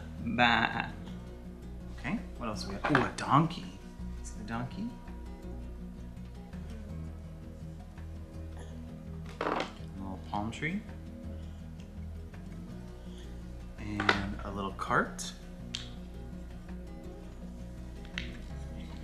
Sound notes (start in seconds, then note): 5.7 gentle instrumental music; 9.3 objects hitting; 11.1 gentle instrumental music; 16.1 gentle instrumental music